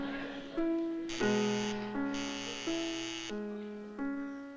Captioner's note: doorbell buzzes